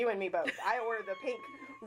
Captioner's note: laughing